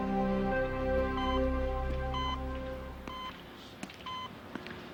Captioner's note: machine beeping